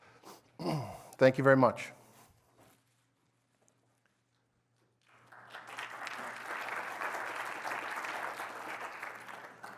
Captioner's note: applause